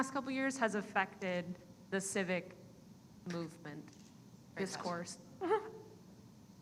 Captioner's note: giggles